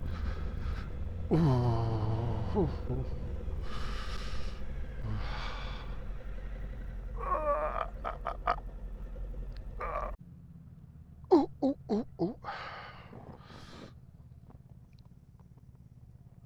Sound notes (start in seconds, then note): 1.2 age related grunting